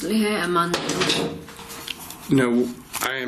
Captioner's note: loud clattering